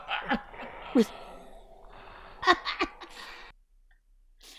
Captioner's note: continued laughter to make it awkward